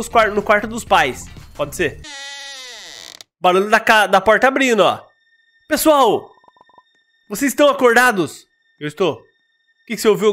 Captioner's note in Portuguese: barulho da porta abrindo